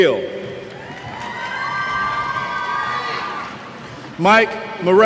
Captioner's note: cheers